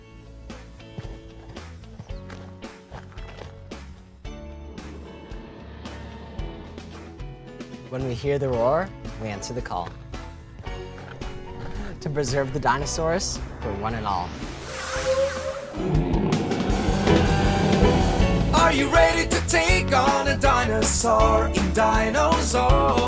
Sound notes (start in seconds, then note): 0.3 upbeat music; 4.5 dinosaurs roar; 15.8 upbeat music